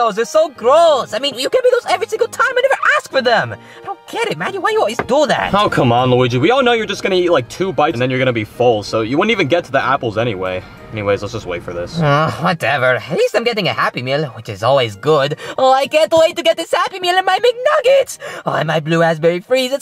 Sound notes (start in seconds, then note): 11.9 groans